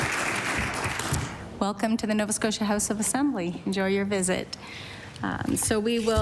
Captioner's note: applause